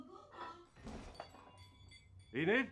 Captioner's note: glass breaking; loud crash